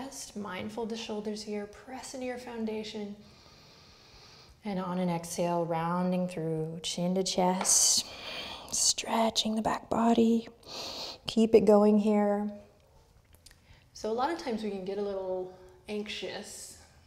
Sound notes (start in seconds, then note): 3.2 inhales; 8.0 outward breath